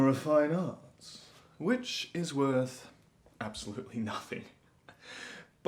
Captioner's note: laughing